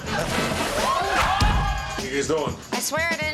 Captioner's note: cheering